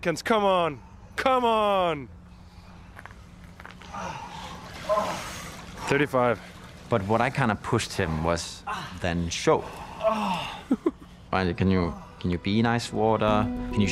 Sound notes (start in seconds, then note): 10.4 camera person chuckles